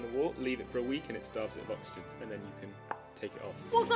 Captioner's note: tongue click